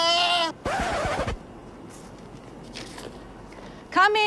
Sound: record scratch

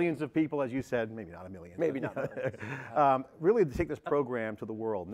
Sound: laughs

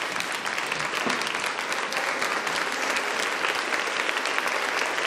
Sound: audience applauding

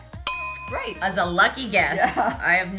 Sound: dinging

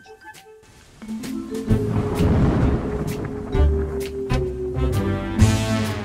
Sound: ominous music; thunder booming

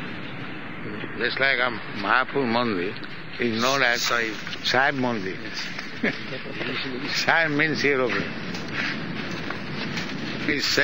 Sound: laughs

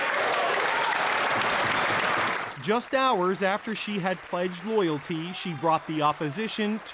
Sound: applause

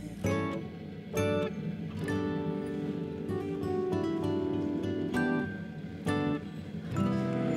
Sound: car enters set

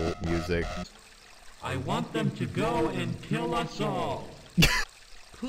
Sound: demonic voice; laughter

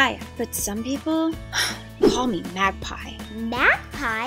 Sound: sighs

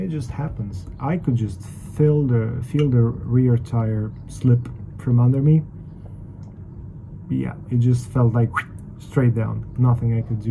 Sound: whistle

